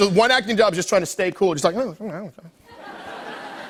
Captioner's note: light laughter